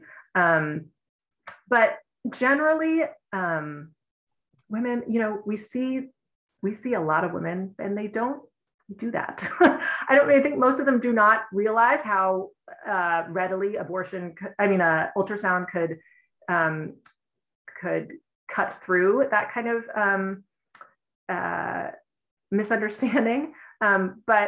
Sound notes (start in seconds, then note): 9.4 laughter